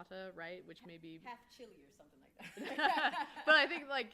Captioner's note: laughing